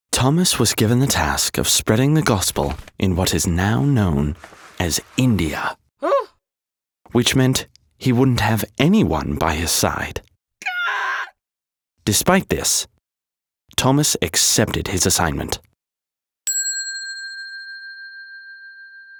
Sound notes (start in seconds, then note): 6.0 Thomas gasping; 16.5 bell dinging